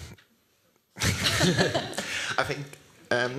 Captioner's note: laughter